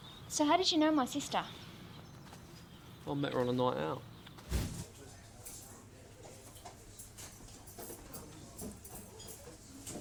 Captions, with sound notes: So, how did you know my sister? - Well, I met her on a night out. (restaurant chatter)